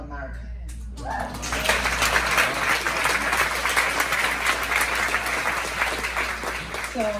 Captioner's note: claps with cheer